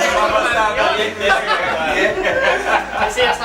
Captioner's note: laughs